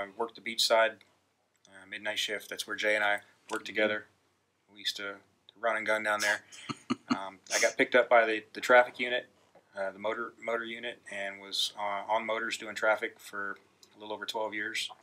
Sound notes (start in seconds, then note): 6.2 laughing